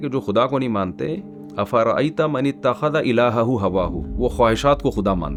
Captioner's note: reciting verse of the Qur'an